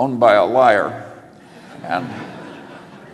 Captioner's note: laughter